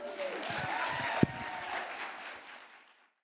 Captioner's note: audience applauding